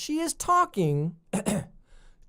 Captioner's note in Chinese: 咳咳